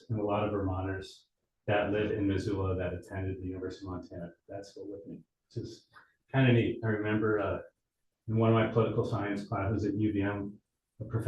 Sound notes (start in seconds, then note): none